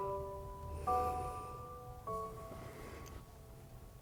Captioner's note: Bryan sighs